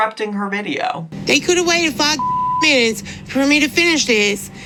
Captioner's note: beep